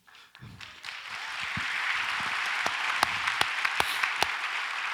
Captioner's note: audience applauds